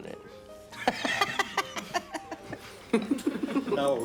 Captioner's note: laughs